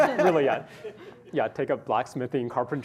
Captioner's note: laughter